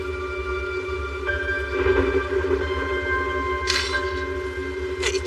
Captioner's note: thunder rumblbles